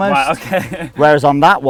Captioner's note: laughs